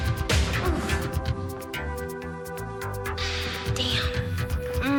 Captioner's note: Marlee groans